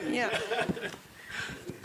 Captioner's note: laughs